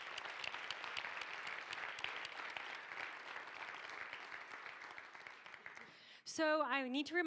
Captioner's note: clapping